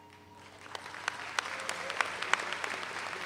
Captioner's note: all applaud